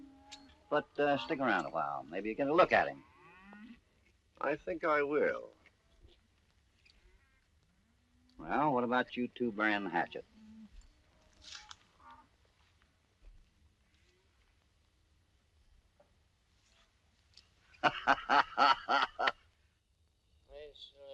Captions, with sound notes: But stick around a while. Maybe you can look at him. I think I will. What about you two bury the hatchet? [ GUFFAWS ]